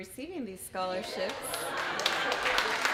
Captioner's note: applause